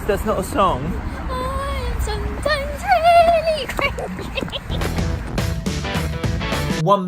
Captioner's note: laughs